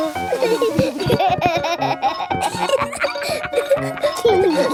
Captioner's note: giggling